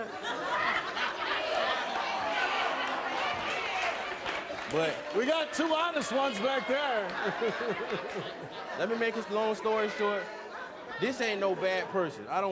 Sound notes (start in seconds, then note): 0.0 crowds laughs; 7.0 laughs